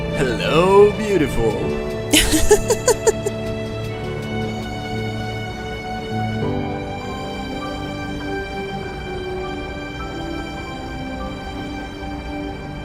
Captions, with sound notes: JAMES Hello Beautiful (RACHEL LAUGHS)